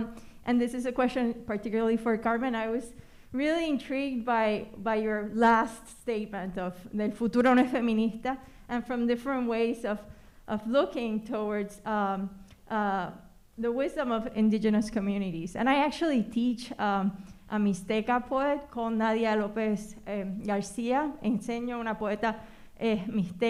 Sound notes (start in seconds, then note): 7.0 speaking spanish; 21.2 speaking spanish